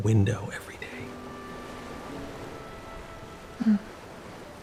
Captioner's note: ocean waves rolling in